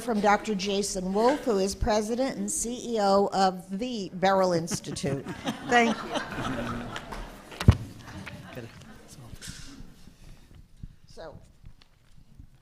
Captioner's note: laughter